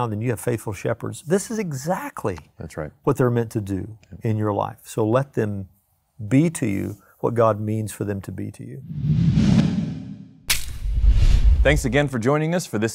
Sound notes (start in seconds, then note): 8.8 graphic whooshing